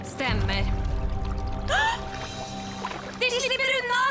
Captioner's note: gasps